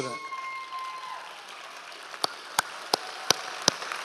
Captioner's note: applauds